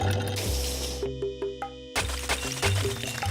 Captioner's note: ice clinking